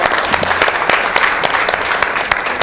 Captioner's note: applause